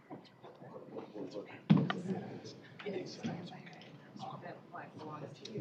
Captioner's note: indistinct chatter